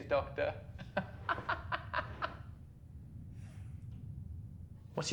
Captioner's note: intruder laughs